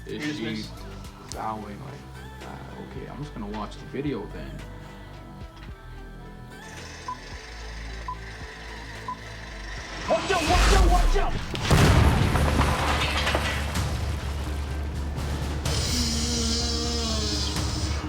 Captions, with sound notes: Is she -- Dismissed -- bowing like that... Okay I'm just gonna watch the video then... WATCH OUT WATCH OUT WATCH OUT-- *explosion* *aggressive sniffing*